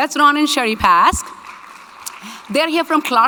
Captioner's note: audience clapping